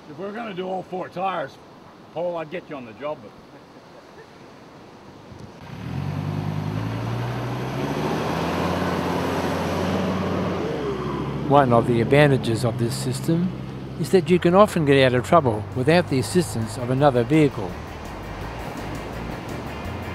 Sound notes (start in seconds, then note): 5.8 vehicle sounds; 18.3 vehicle sounds